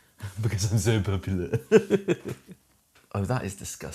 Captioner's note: laughs